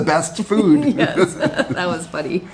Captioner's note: both laugh